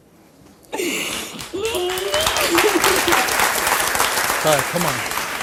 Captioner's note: audience applauds